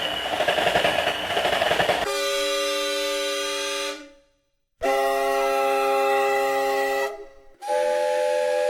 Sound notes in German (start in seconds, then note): 4.8 Zugpfiff; 7.6 Dampfpfeife